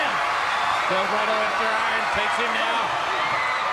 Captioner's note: crowd cheering